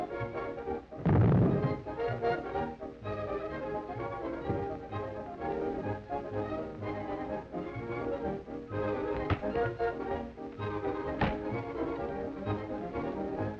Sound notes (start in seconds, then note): 0.9 floor rumbles; 3.8 frantic orchestra music